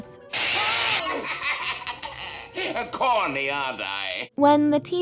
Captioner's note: laughing